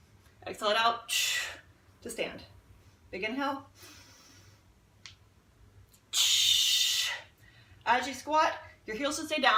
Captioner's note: audible exhale